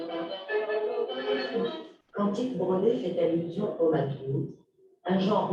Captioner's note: non-english speech